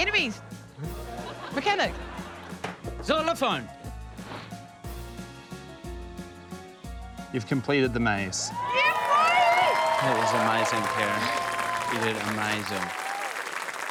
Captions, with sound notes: Enemies. Mechanic. Xylophone. (TENSE MUSIC) - You've completed the maze. - Yeah, boy! (AUDIENCE CHEERS, APPLAUDS) That was amazing, Karen. You did amazing.